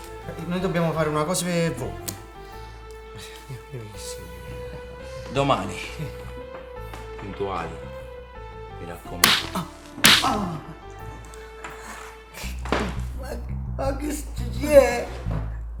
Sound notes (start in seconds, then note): 9.2 slapping noise; 11.5 tension music